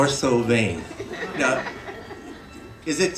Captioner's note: laughter